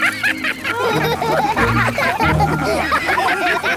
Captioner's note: all laugh